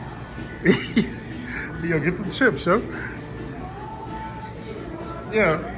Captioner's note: chuckling